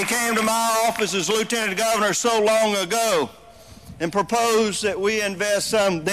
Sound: applause

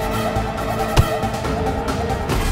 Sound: tapping

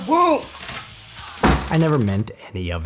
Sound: door slams

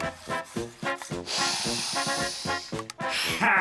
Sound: sniffing

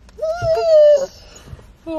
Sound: whining

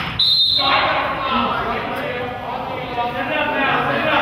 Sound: whistle blows

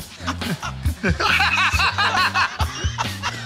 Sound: laughter

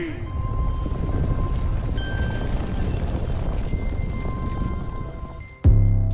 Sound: rumbling, rocks crashing

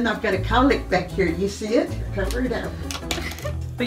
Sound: laughs

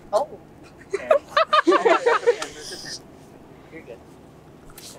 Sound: laughter

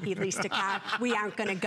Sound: laughter

